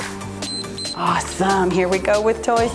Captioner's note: timer beeps